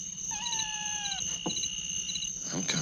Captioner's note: kitten meowing